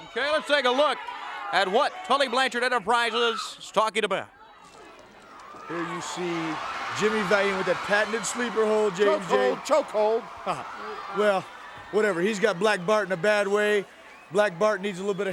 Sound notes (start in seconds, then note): 4.9 crowd chatter